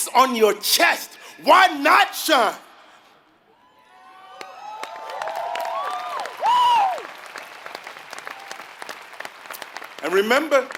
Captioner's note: applause